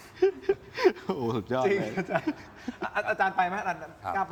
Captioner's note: laughs